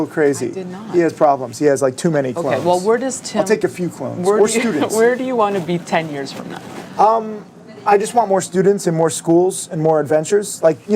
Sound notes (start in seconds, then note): 5.0 laughs